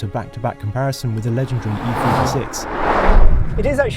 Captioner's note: cars whooshing